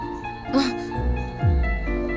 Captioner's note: gasps